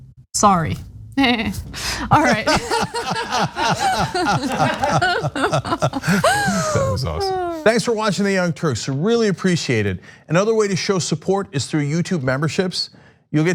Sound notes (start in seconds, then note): 4.8 laugh